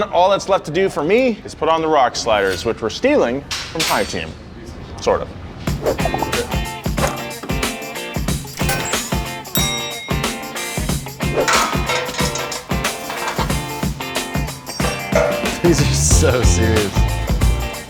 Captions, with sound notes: All that's left to do for me is put on the rock sliders, which we're stealing from Hi Team, sort of. (cheerful music) (bell dings) - This is so serious.